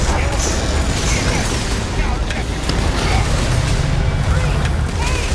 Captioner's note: rumbling